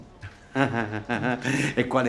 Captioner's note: fake laughing